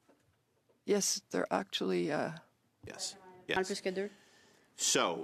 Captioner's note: speaking French